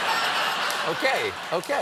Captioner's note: laughter